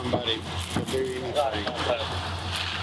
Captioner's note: slurring